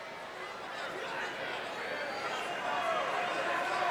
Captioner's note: crowd yelling